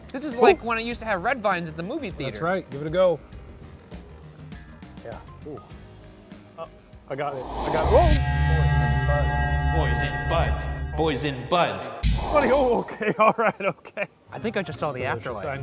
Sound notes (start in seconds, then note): 7.2 dramatic whooshing; 7.5 echoing